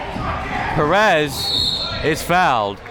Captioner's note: whistle blowing